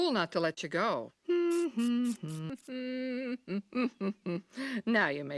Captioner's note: Mrs. Krabappel hums